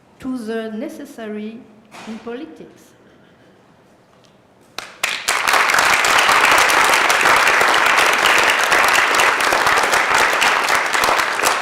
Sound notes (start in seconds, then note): 4.7 applause